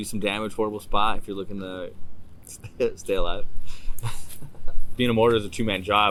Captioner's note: laughing